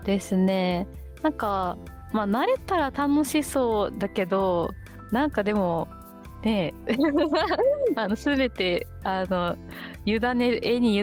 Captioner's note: laughs